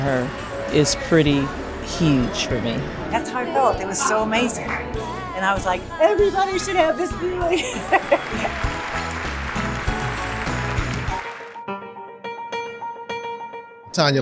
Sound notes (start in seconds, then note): 7.5 audience applauding; 11.2 classical piano music